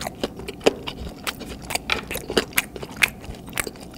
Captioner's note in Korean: 뼈 씹히는 오도독 소리 대박